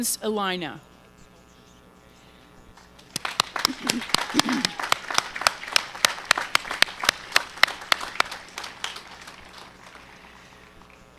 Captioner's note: applause